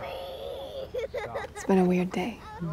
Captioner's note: sobbing